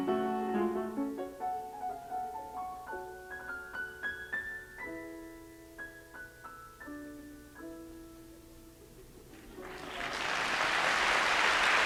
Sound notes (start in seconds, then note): 0.0 music softens; 9.4 applause; 9.4 crowd laughter